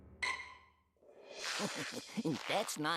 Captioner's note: chuckling